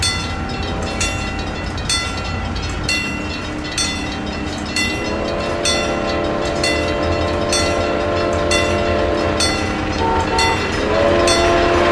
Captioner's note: PRR T1 whistle